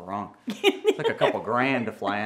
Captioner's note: laughs